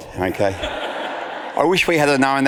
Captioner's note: audience laughs